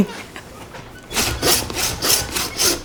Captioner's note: laughing